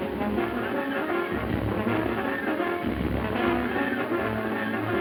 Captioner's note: landslide rumbling